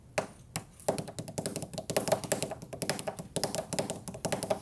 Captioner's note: tapping on desk